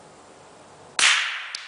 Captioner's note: gunshot